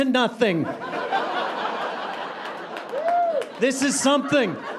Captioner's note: audience laughing